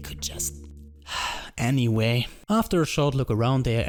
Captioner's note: whispering; sighs